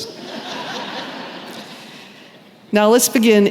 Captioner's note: laughter